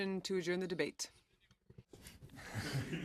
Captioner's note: speaking in french